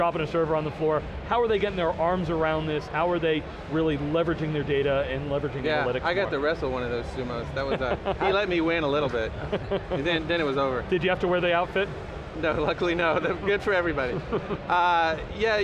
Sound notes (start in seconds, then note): 7.6 laughter